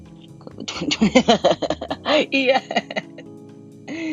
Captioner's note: breaks out laughing